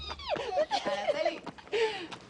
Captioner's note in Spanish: Risas